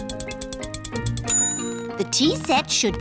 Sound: bell dings

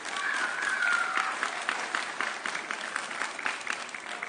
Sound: audience cheering

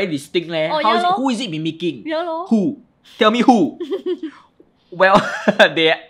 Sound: chuckles

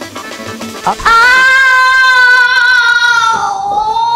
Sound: screaming

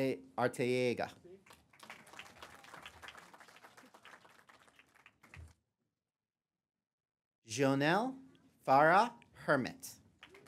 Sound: applause; applause

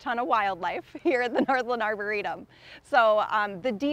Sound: chuckles

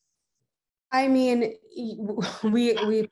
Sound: chuckles

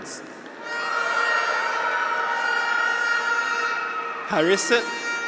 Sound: graduates cheer; horn honks

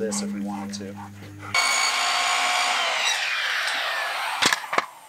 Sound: saw cutting

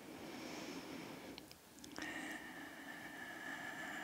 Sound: sighs

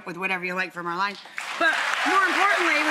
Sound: audience cheers

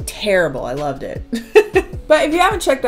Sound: chuckles

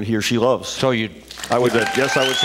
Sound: cheers, applause

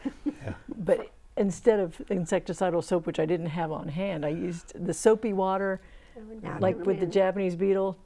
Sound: laughing

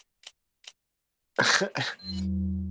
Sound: chuckle

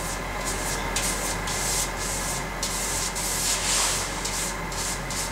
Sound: machine noise in the background, brush wiping noises in the foreground

